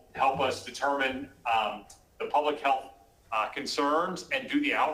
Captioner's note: ~distortion~